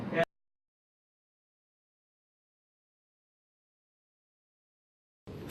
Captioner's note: silence